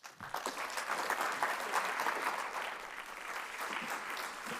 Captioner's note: audience applauds